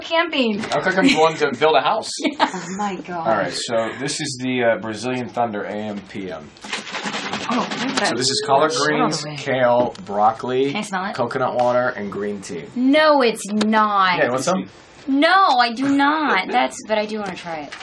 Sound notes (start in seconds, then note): 2.2 laughing; 6.5 liquid shaking